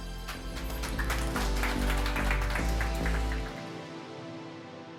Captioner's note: applause